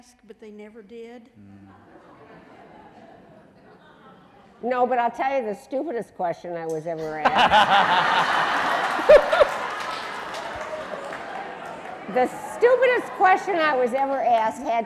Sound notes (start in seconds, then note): 1.6 audience laughing; 7.0 laughing